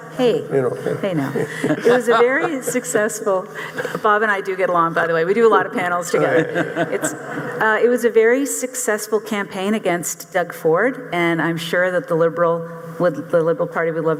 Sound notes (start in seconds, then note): 1.3 panel chuckling